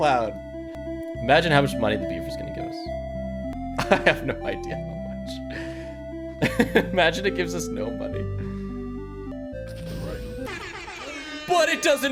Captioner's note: laughs